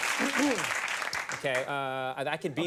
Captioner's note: throat clears